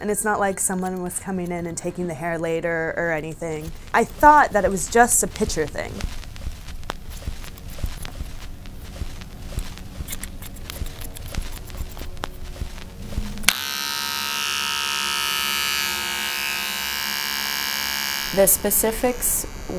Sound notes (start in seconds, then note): 6.5 cutting sounds; 13.4 electric buzzer sounds